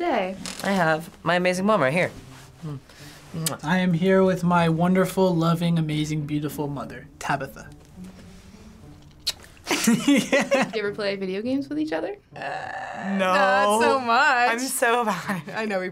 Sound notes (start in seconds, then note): 7.6 laughing; 7.6 loud kiss